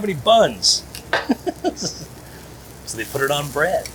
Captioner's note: chuckling